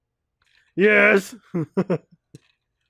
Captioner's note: chuckles; mocking